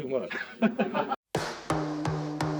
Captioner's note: interviewer laughing; soft music